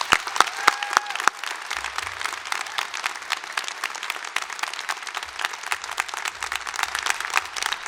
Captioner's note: cheering and applause